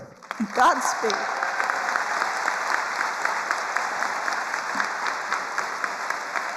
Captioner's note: attendees cheering and applauding